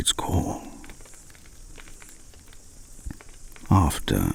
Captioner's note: fire crackling and night insect buzzing